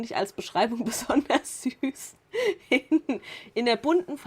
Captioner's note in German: Lachen